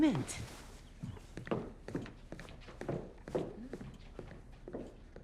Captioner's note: shoes clacking